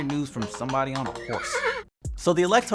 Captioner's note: horse neighs